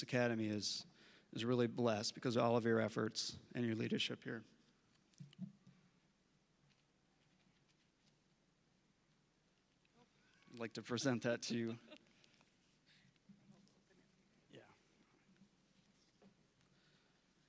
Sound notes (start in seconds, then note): 11.5 laughing